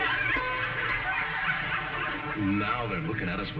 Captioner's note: audience laughing